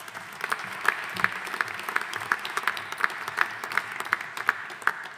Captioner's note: audience applauding